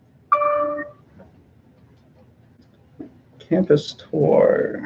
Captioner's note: computer dings